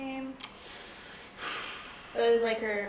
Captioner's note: sigh